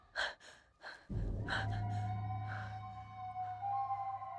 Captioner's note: heavy breathing